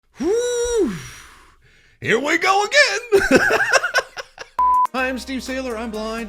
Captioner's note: laughing